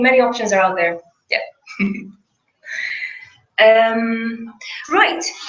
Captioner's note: laugh